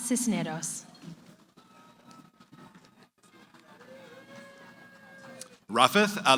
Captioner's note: cheering